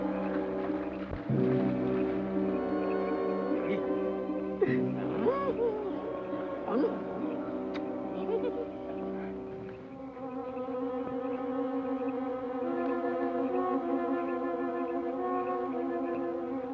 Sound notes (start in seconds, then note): 4.6 soldier laughs; 10.3 tense suspenseful music